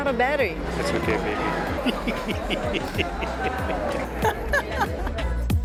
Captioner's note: laughs